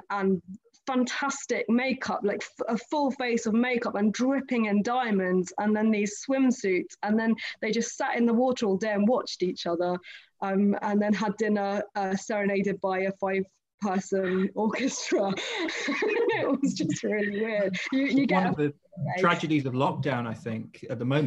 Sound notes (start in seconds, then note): 14.2 laughs